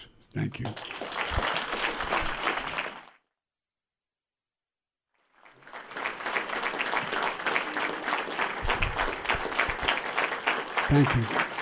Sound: applause

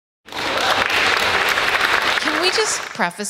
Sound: audience applaud

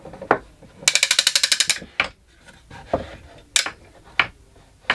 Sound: gear cranking

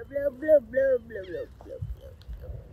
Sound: bird chirping

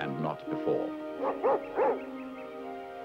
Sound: dog barking; birds chirping

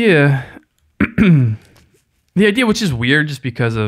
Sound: clears throat

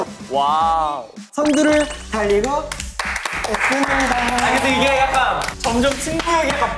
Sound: clap clap

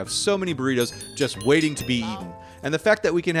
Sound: texts chimes

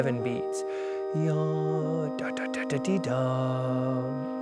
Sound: he hums

